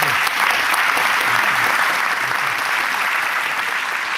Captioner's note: applause